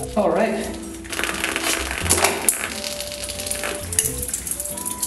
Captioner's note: remaining water dripping onto the mousemat